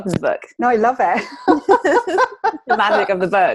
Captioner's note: laughing